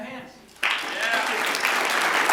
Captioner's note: applause